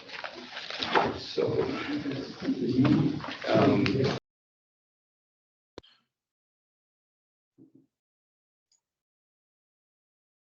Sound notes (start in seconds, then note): 1.2 people chattering